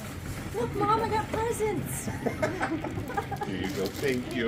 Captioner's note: laughter